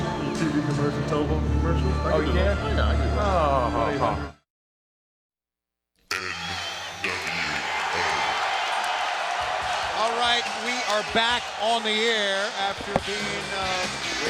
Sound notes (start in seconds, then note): 8.3 audience cheering